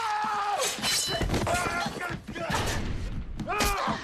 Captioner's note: screaming